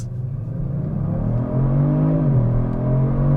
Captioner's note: engine roaring